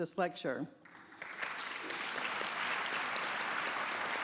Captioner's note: applause